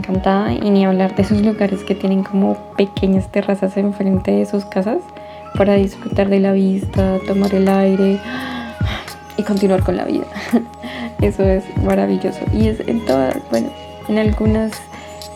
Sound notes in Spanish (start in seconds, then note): 8.2 suspiro